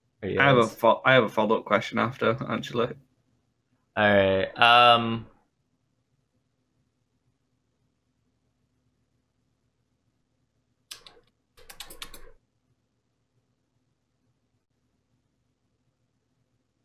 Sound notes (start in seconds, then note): 5.9 typing sounds